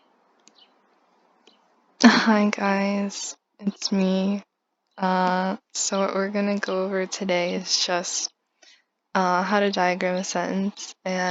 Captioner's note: gross voice noises